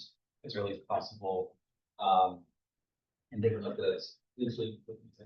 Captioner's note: speaks faintly